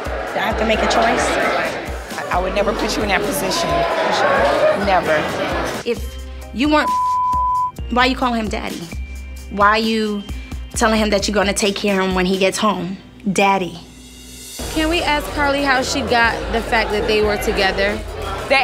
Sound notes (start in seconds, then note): 6.6 beep